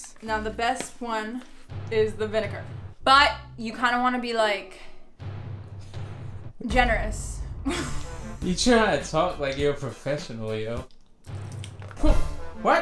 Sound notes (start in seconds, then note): 5.1 dramatic music; 7.6 laughing; 11.2 dramatic music